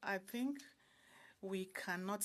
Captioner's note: speaking French